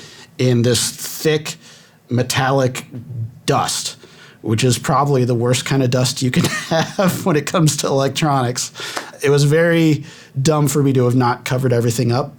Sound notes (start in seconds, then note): 4.4 laughing